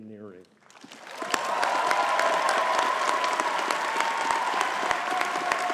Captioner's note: audience cheering and clapping